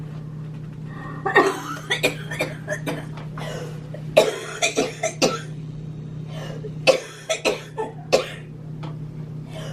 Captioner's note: coughing